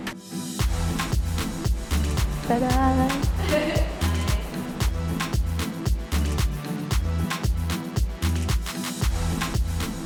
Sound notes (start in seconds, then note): 0.1 afrobeats music; 3.4 laughing; 4.7 afrobeats music